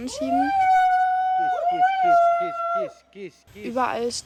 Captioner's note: loud shouts